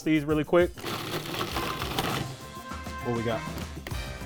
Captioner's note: food processor running